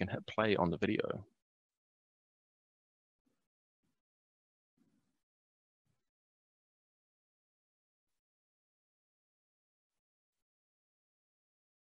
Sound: silence

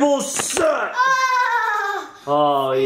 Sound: fake laughs

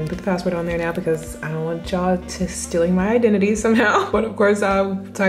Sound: laughs

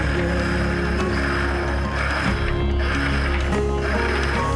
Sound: rope winding

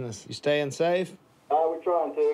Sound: on phone

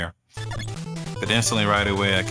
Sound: Megaman Legacy Collection game sounds

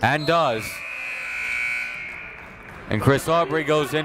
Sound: buzzer

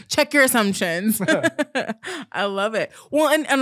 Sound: both laughing

